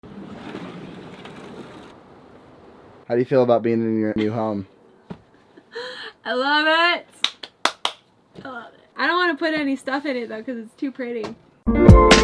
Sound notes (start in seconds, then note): 0.0 door opening; 7.2 excited clapping